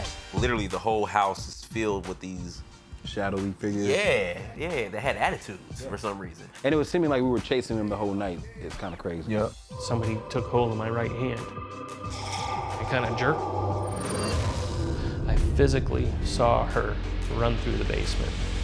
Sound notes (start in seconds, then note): 11.5 buzzing; 13.7 buzzing and whooshing